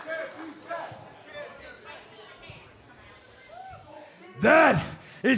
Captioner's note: fans chanting